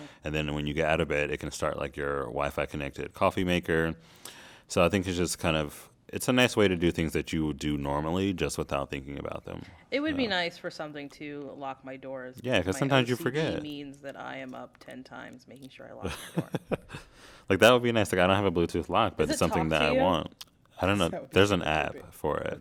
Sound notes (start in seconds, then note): 16.0 laughter